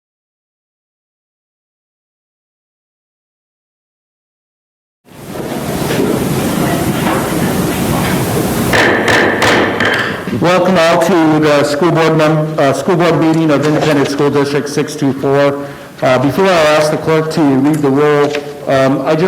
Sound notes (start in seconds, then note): 8.8 gavel banging